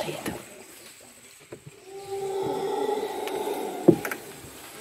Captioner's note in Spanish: aullido